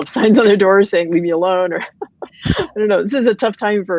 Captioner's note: laughs